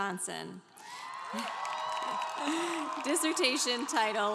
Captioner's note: congregation cheering